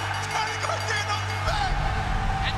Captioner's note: bell ringing